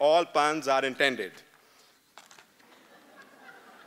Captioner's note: laughter